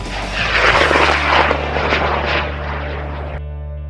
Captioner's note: rocket launching